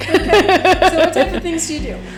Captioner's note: laughs